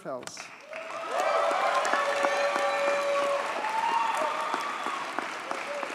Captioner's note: audience cheers and applauds